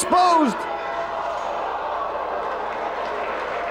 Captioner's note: spectators exclaiming; spectators applauding